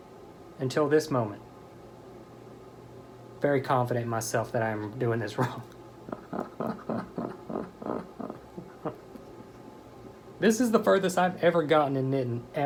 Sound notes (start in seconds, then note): 6.0 laughter